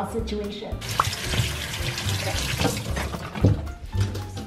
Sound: water splashing

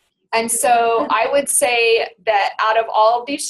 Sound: voiceover

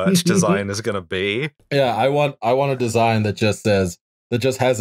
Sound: laughter

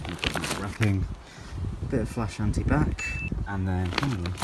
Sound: checkbox Ding

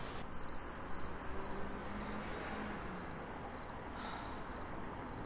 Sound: crickets chirping

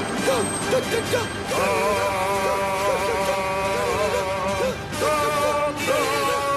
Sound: brakes squealing; Ray Romano noises; horn honking

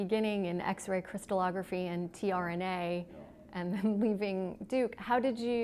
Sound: chuckle

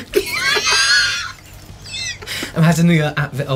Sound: gasping Laughter

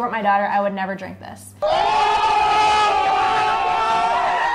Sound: crowd cheering

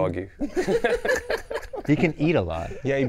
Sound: laughing

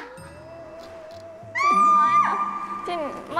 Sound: screams all over the place

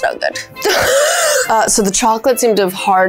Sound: laughing

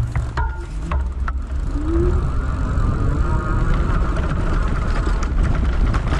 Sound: bike's motor rumbling

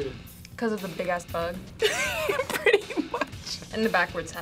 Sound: laughs

